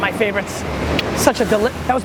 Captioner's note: click